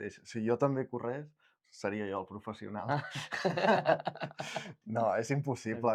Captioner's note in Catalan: rialles